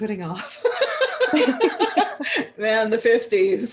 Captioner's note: laughter